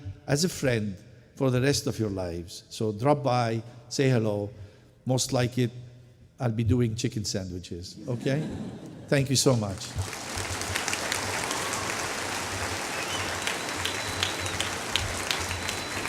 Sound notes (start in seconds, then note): 9.5 applause